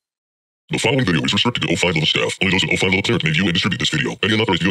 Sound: distorted voice

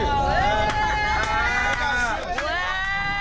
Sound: all cheering

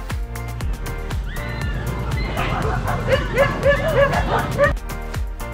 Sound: spectators cheering; dogs barking; upbeat music continues

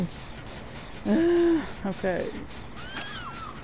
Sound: whines

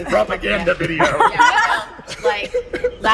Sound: laughter

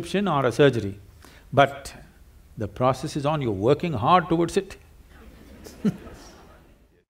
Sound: few Laugh

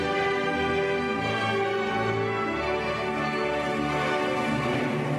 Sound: none

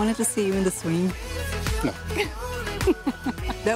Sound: laughs

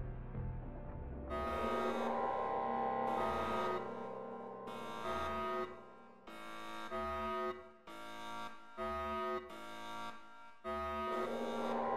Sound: alarms

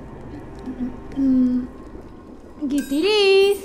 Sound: humming; bells tinkling

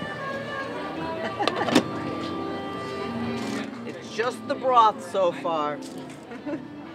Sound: lid closing sound

